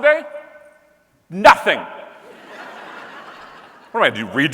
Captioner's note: audience laughing